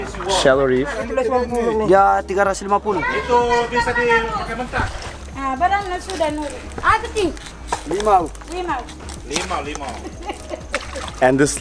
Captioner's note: foreign language